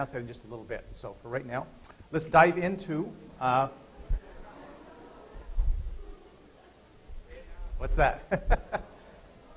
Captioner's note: laughter